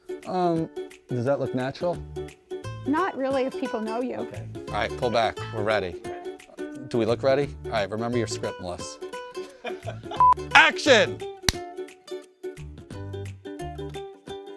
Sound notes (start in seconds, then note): 0.0 upbeat ukulele music; 9.5 man laughs; 10.2 beep